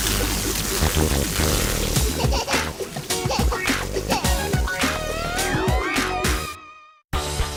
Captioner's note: lazer beam and sizzling sounds